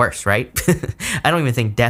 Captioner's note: laughs